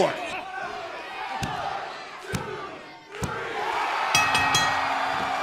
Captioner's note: crowd chatter; bell ringing